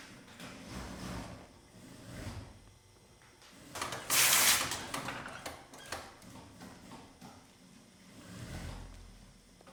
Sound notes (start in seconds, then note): 3.7 iron steaming sound in the background